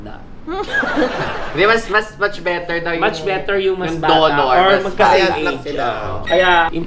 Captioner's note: laugh